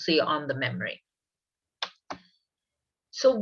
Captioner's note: keyboard sound